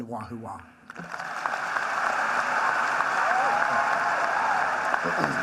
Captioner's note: applause